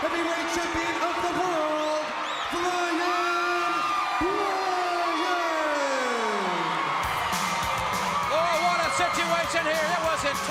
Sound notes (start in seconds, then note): 4.7 crowd cheering